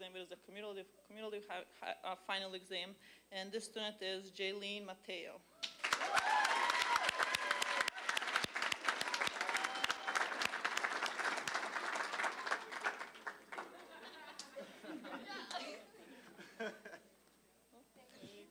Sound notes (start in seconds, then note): 5.6 applause, cheering; 15.2 audience laughing